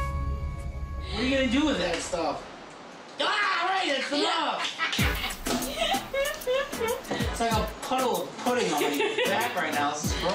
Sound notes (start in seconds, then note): 4.2 laughing